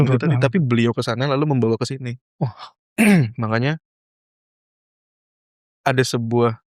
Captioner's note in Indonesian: berdehem